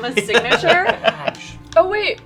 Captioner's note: laughing